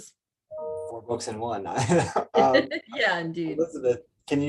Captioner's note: laughs